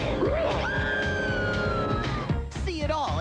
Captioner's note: Pete growls; Minnie Screams